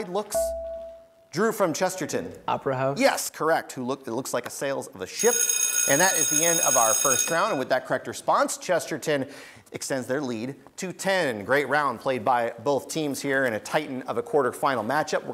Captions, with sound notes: (buzzer beeps) Drew from Chesterton. >> Opera house? >> Yes, correct, it looks like the sails of a ship. (bell rings) And that is the end of our first round. And with that correct response, Chesterton extends their lead to 10. Great round played by both teams here in a titan of a quarterfinal match up.